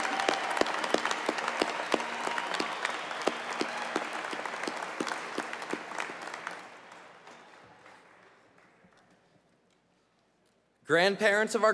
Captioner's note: cheers and applause